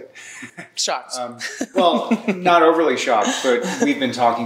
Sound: laughs

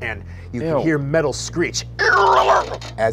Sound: metal screeching

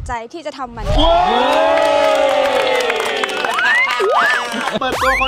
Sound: cheering; applauding

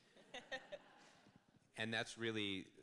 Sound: interviewer laughs

